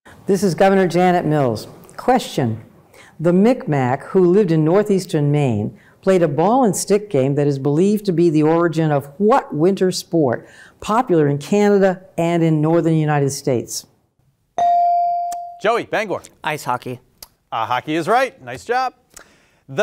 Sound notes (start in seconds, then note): 14.6 bell ringing